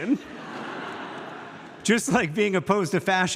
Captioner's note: audience laughs